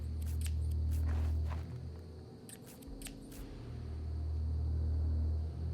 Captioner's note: scissors snipping